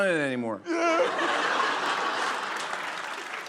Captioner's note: sobbing; cheers and applause